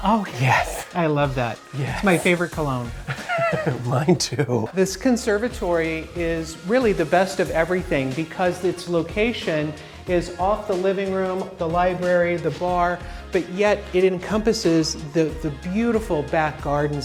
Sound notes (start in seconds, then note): 3.0 giggles